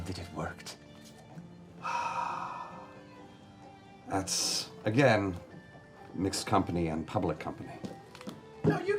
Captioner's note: sighs